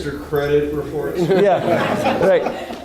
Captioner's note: everyone laughing